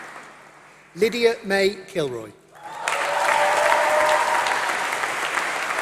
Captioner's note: applause